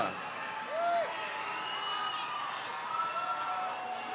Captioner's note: crowd cheers